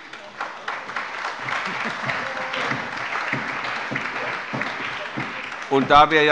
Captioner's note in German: Beifall